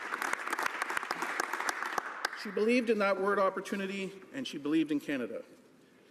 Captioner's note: some Applause